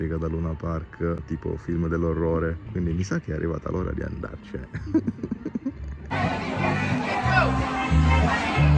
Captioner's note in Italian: risate